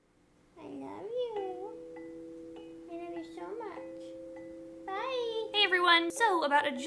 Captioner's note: to kitty, in babytalk voice